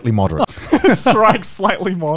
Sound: laugh

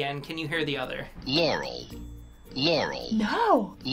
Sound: voice-over

